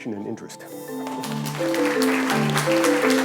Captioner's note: applause